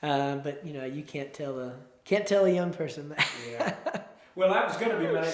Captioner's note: chuckles